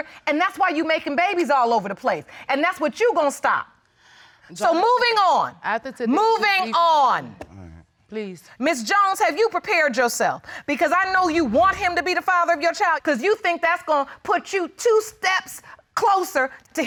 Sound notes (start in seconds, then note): 5.1 stammers